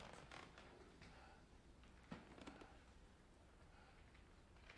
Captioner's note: McKenna breathing heavily